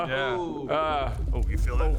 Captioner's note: rumble